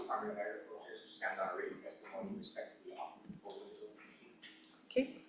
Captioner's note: voice fades